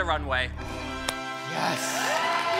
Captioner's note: triumphant music; group gasps; group cheering and clapping